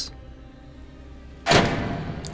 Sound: prison doors slam shut

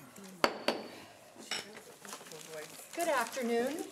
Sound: gavel banging

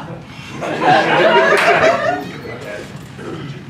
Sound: laughter

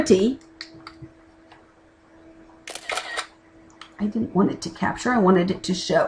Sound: camera clicking

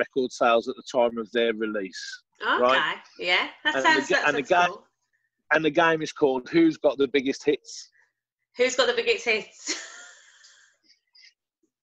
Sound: laughter

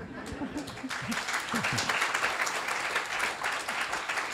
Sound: applause

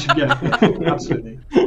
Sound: laughter

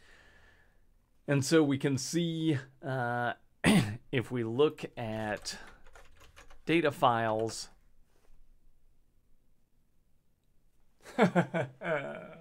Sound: pained laugh

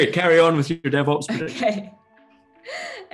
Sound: laughs

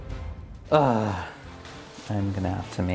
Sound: groans

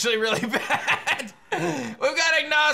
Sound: laughs

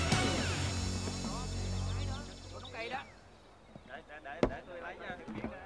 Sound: passengers chatter

